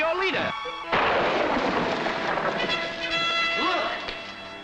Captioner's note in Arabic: صاعقة البرق